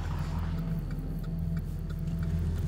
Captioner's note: turn signals clicking